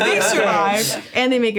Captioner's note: all laughing